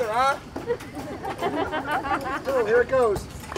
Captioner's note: audience laughs